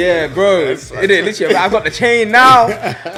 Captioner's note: laughs